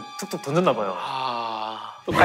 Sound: sigh

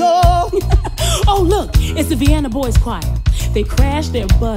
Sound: laughs

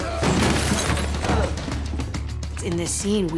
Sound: grunts

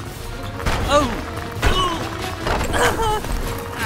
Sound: rock crunches

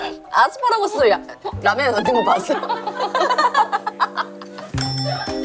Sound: cracking up

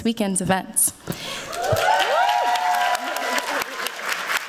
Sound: applause

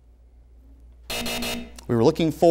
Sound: buzzing

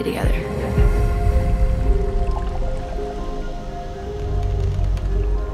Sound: bubbles

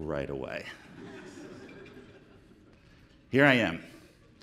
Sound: audience laughing

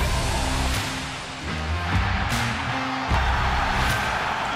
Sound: crowd cheering

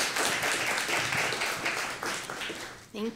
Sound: applause

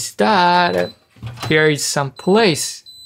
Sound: refrigerator beeps

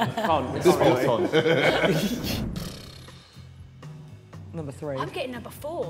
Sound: all laughing

